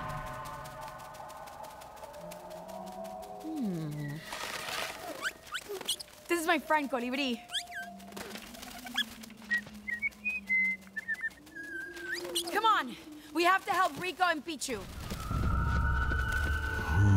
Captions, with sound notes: [music fades] Hmm. -Ooh. -This is my friend Colibrí. [chirps] [whistles birdsong] [chirps] Come on. We have to help Rico and Picchu. [mysterious music plays]